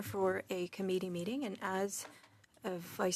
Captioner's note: speaking in French